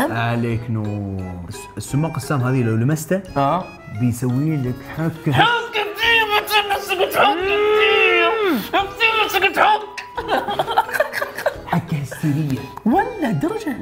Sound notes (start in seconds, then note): 5.4 shouting and itching; 10.0 laughs